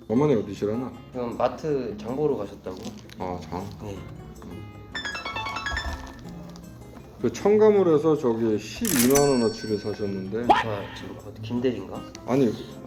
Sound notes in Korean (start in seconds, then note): 4.9 문자알림